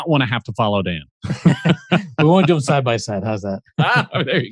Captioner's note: laughter